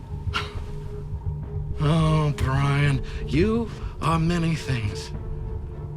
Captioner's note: scoffs